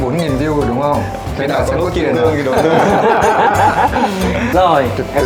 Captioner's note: laugh